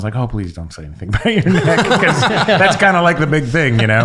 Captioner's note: laughing